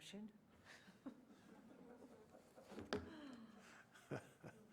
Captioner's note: laughter